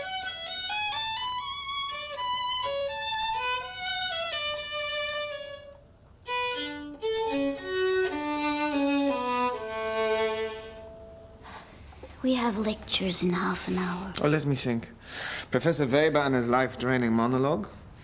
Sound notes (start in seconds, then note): 10.7 <i> sighs</i>